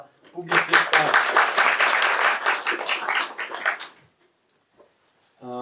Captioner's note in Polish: Aplauz